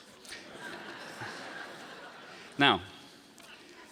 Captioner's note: audience laughing